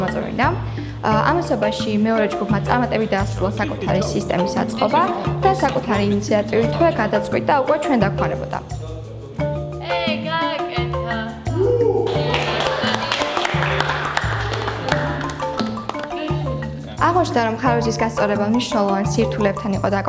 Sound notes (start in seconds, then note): 12.0 clapping